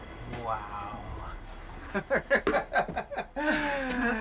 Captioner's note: laughs